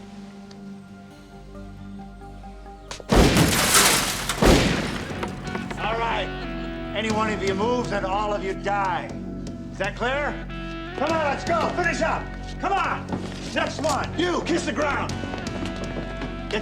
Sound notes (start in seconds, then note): 3.0 shotgun blasts